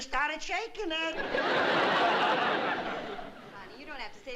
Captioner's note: laughter